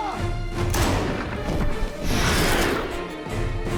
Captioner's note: gun fires